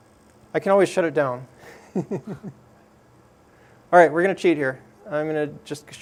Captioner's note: laugh